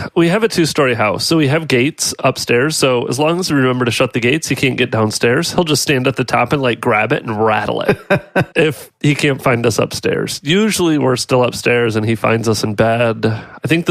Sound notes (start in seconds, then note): 7.6 laughs